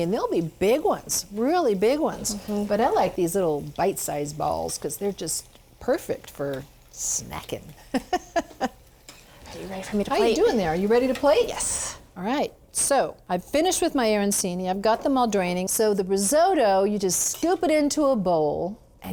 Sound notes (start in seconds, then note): 7.8 laughs